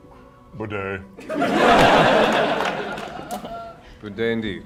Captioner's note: laughter